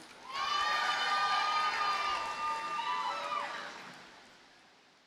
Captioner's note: audience cheers and applauds